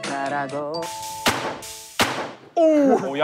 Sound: thud

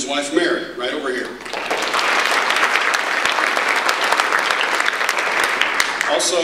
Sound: audience applause

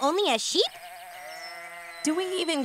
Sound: sheep baa

